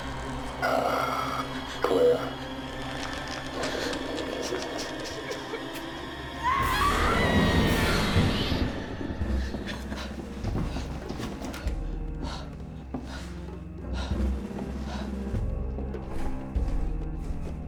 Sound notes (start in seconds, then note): 5.4 Claire whimpering; 6.3 Claire screams; 12.3 suspenseful music